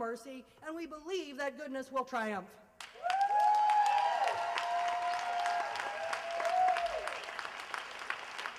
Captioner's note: applause